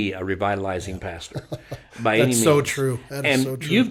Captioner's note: laughs